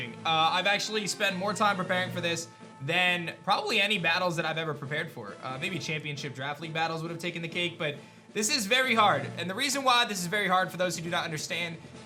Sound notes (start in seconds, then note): none